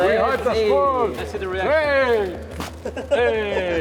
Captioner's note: bag thumping softly